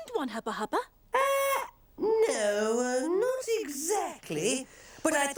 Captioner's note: exclaiming